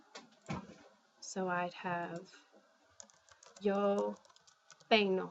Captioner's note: speaking spanish